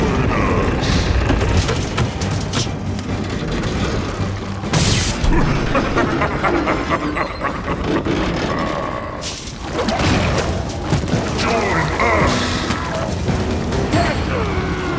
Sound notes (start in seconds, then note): 3.7 electricity buzzes; 5.3 Steenium cackles; 9.9 intense music continues